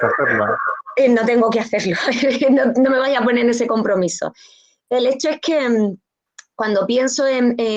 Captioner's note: laughs